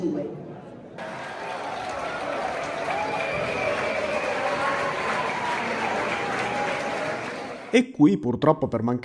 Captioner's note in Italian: Folla che applaude